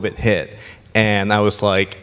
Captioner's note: none